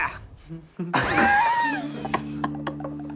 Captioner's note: laughing